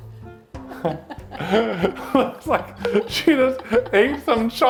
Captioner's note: both laugh